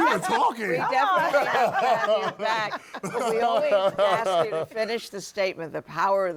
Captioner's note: laughter